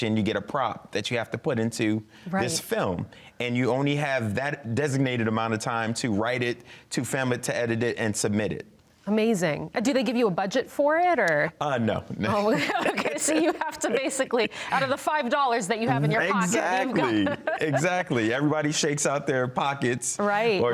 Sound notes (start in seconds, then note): 12.3 both laughing; 15.9 laughs